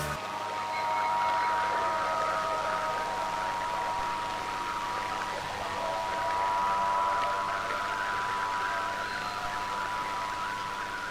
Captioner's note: static Noise